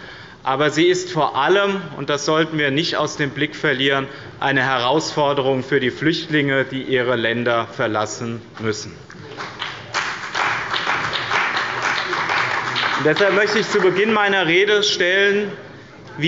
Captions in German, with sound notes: Aber sie ist vor allem – das sollten wir nicht aus dem Blick verlieren – eine Herausforderung für die Flüchtlinge, die ihre Länder verlassen müssen. (Beifall bei dem BÜNDNIS 90/DIE GRÜNEN und der CDU) Deshalb möchte ich zu Beginn meiner Rede die Frage stellen,